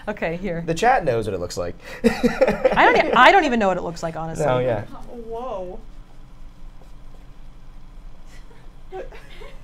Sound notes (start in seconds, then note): 2.0 laughs